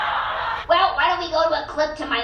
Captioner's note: audience laughing